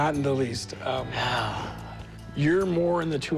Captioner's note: laughs; sighs